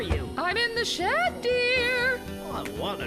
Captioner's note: shouting